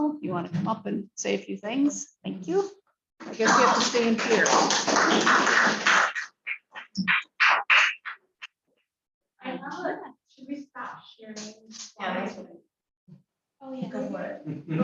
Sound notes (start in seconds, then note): 3.3 applause